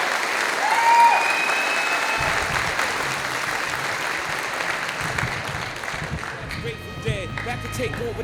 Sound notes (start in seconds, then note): 4.0 audience applauding